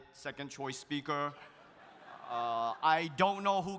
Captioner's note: audience laughs